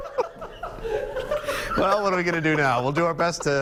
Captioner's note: laughter